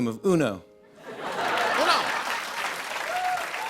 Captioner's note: laughter; cheers and applause